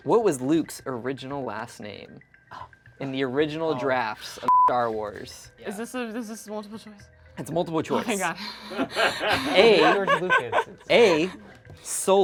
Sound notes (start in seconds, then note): 7.9 crew member laughs; 7.9 laughs